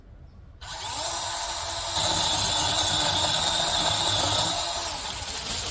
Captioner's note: chainsaw revs